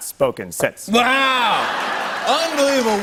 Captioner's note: laughter